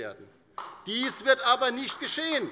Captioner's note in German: Beifall bei Abgeordneten der LINKEN